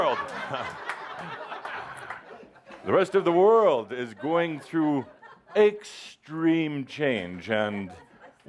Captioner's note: laughter